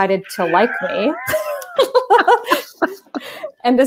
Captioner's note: laughter